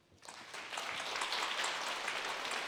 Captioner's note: audience applauding